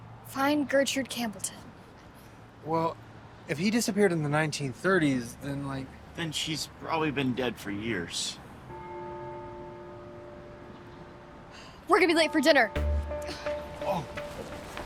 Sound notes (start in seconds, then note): 8.7 church bell tolling; 11.2 exhales